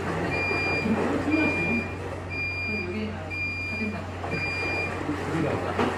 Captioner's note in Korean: 종료음